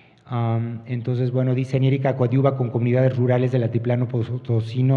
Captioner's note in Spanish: habla en wixárika